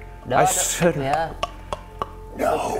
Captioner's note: thinking clicks